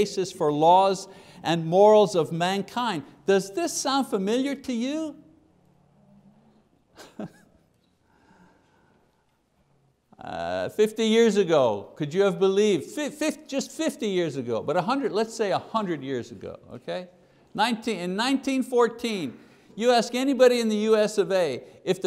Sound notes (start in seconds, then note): 6.9 chuckles